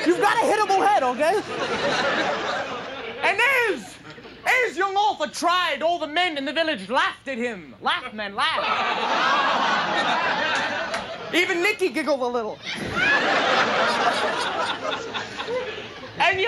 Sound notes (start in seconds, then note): 1.7 audience laughing; 9.5 sarcastic laughing; 12.6 audience laughing